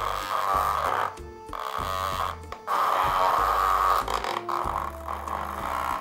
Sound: peaceful music; vibrator buzzes

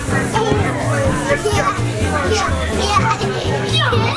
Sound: giggling

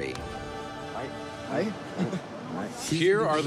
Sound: speaking Maori

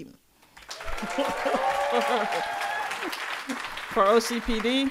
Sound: audience applauding

